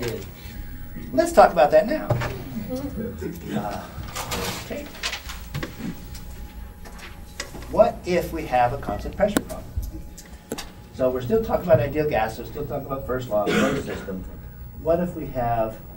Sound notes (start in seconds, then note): 2.3 laughter